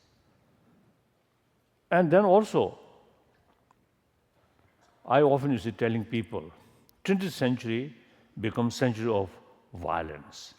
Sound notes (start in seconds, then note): none